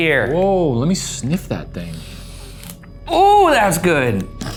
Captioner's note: sniffs